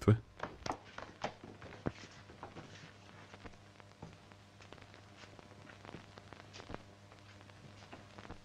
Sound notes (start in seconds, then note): 0.4 floor pattering